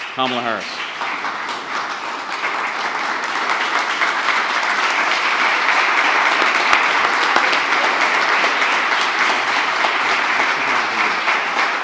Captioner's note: applause